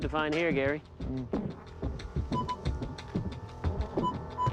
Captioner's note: beeping